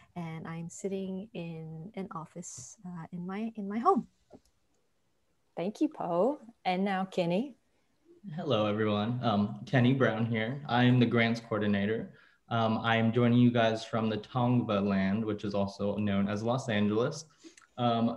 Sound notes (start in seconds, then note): none